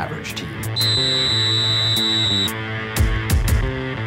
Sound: whistle

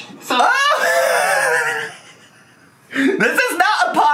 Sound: laughs

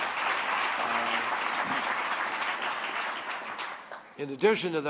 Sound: applause

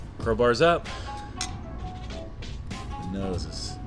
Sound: glasses clink

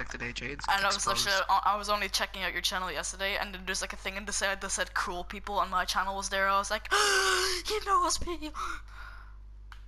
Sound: extreme breath intake

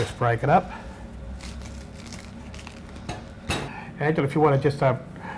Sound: bread crunching

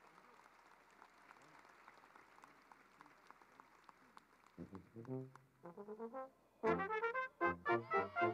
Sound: cheering and applause

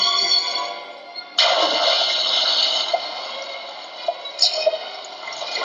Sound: water splashing

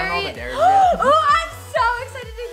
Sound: gasp

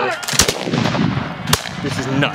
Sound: guns firing

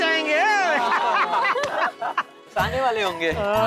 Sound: laughing

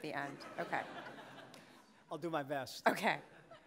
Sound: audience laughing

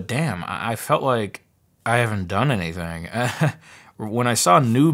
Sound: laughs

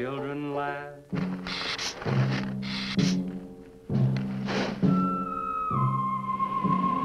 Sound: gila monster hisses; ominous music

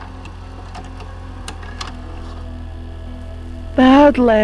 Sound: VHS tape click

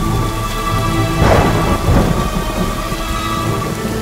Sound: thunder rumbling

